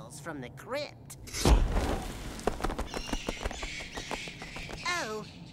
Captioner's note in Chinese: 噗!